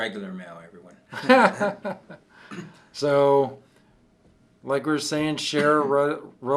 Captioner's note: laughs